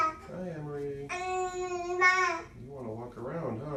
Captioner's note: baby babbles